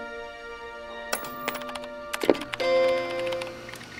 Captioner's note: gentle music; clicking; computer chimes